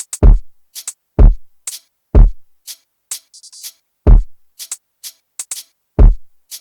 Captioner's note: beat boxing